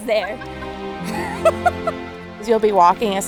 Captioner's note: laughs